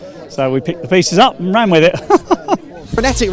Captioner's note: laughs